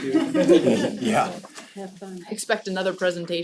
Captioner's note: laugh